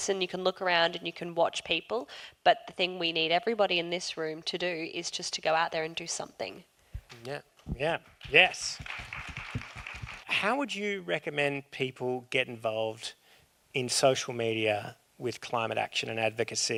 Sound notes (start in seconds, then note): 8.6 clapping